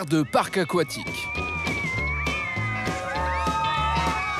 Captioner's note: hollers